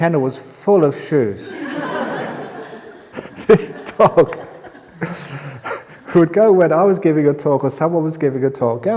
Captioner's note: laugher